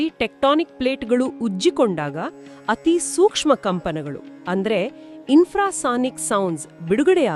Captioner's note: Infrasonic sounds